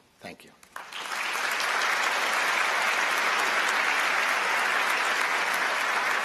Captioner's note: applause